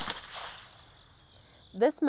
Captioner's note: gunshot